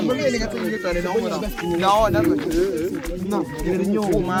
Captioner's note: arguing